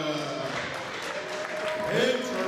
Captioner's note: audience cheers